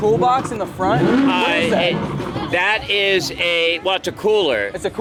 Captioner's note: car revs